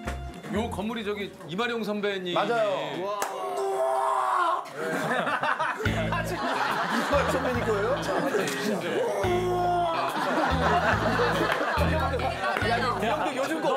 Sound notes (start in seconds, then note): 3.2 screaming